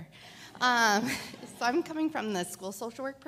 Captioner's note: audience laughs